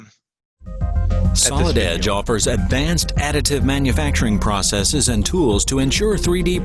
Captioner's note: voiceover